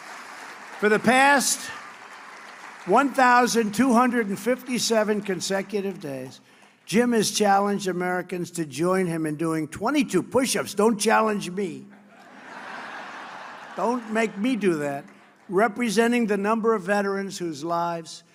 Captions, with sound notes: For the past 1,257 consecutive days, Jim has challenged Americans to join him in doing 22 push-ups - don't challenge me - (laughter) - don't make me do that - representing the number of veterans whose lives